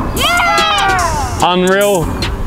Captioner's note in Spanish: vítores de la multitud